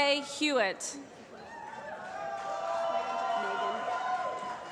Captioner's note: applause